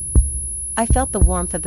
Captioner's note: heartbeat, echoes, silence